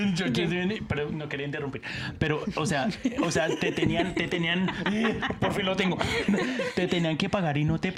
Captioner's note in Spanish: risas